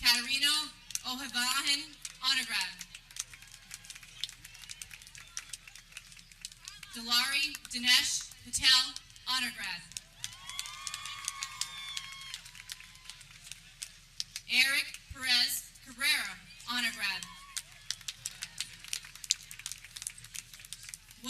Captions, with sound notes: Nina Catarina Ojevarahin, Honor grad (people clapping) Dulari Dinesh Patel, Honor grad (people cheering) Eric Perez Herrera, Honor grad (people clapping)